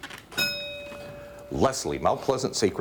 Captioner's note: bell rings